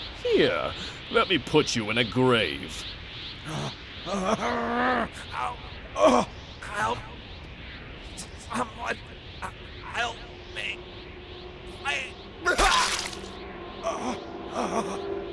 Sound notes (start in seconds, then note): 6.2 gasp of fear